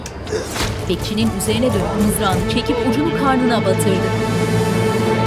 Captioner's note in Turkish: Kalabalığın sesleri